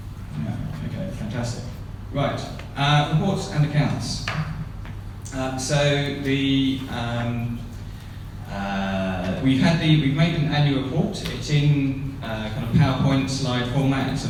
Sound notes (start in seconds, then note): none